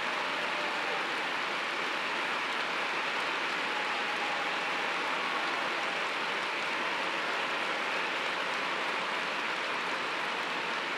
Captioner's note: applause